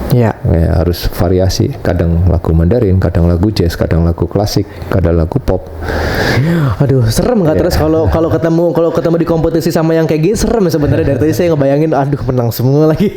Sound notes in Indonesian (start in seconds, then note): 5.8 terkesiap